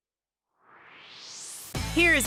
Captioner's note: swoosh